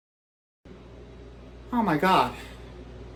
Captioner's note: gasps